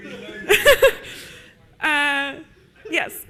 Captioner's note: audience laughs